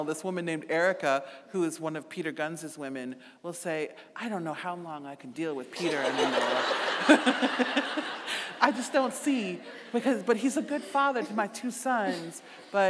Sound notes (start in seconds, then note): 5.8 laughing; 5.8 audience laughing